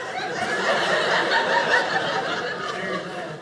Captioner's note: audience laughing